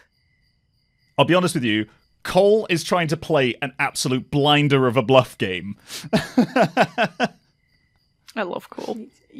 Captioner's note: laughs